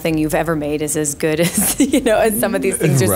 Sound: laughs

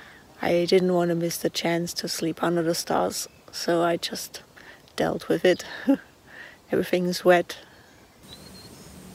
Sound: laughs

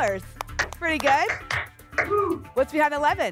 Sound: applause

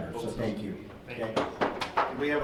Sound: clapping

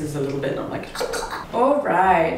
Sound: gagging

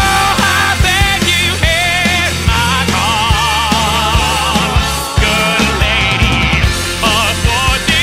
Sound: ahhhhh

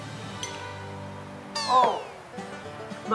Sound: success music; failure sound

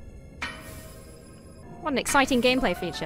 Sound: crystal shatters

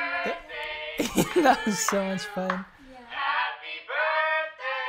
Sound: both laughing

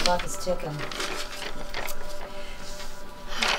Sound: papers rustle; emma exhales

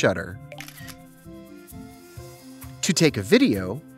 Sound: camera snap

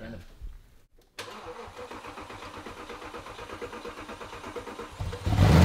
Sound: car engine turning over

